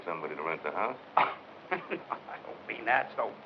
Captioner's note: chuckles; scoffs